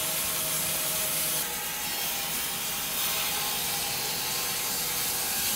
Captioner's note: machine sawing